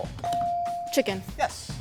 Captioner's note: bell dings